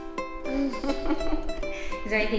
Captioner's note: light string music; laughing gently